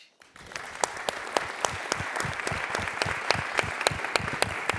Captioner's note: audience claps